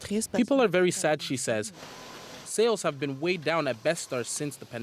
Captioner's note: speaking French